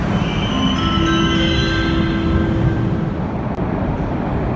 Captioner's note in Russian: сигнал о прибытии поезда; прибытие поезда на станцию; сигнал о прибытии поезда